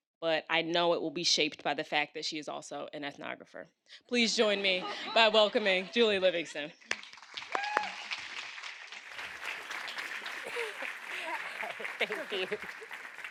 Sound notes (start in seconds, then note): 6.8 audience applauds